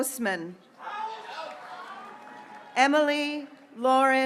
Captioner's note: graduates cheering